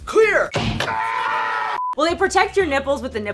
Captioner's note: screaming